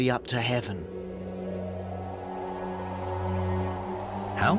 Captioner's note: wind whistling